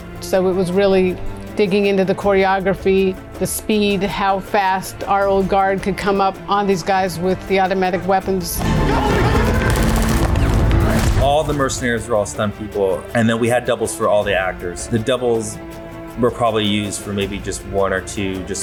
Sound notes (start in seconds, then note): 8.6 men yelling; 8.6 guns shooting